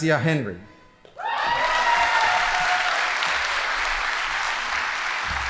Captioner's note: audience applauding